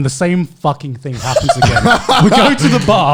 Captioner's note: laughing